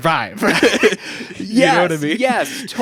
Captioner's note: laughing